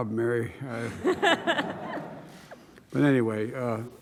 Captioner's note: laughter